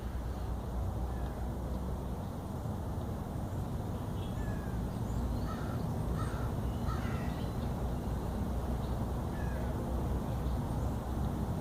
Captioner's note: distant birds, traffic, and wind